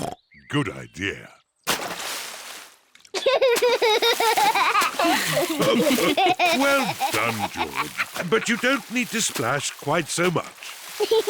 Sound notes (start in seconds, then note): 0.0 oinks; 3.1 laughs; 5.3 all laugh